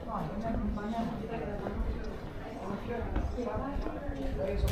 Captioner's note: speaking in foreign language